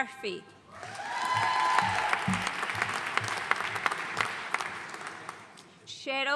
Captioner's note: audience cheering and applauding